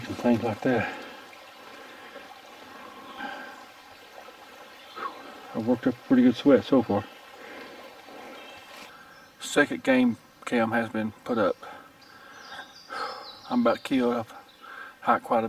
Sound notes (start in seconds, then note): 1.6 burbling water; 2.6 heavy breathing